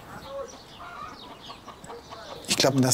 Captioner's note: chicken cackling